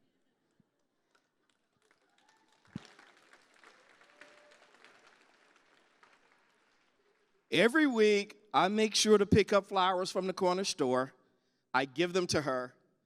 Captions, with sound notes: [cheers and applause] Every week I make sure to pick up flowers from the corner store. I give them to her.